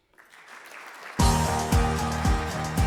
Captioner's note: audience clapping; upbeat energetic music